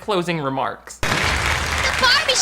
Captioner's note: fireworks explode